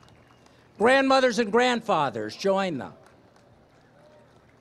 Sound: applause

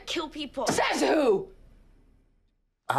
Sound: yells

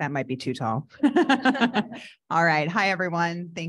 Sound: audience laughing

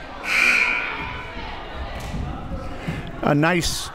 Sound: buzzer

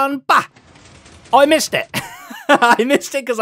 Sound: laughs

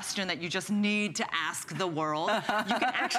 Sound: laughter

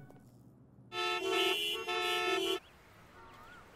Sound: traffic sounds

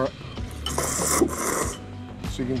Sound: slurping

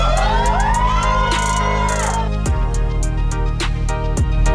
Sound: crowd cheering

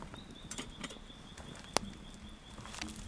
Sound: birds singing

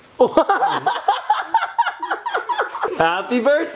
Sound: guffaws

